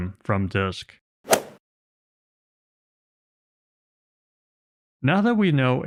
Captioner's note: golf ball hit sound effect